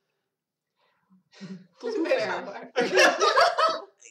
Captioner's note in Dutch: gegiechel